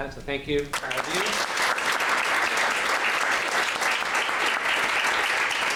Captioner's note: applause